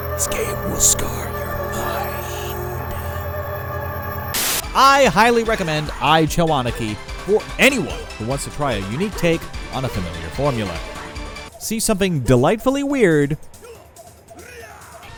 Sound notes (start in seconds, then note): 4.3 TV static